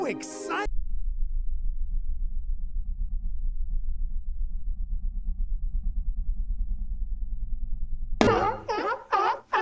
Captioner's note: rumbling